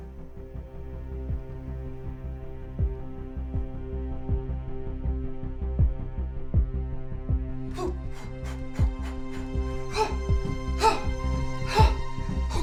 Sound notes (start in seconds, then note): 0.2 tense dramatic music; 7.7 Paula breathing heavily; 9.9 grunting